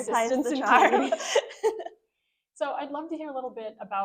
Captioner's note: chuckling